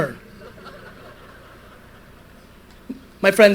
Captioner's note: audience laughter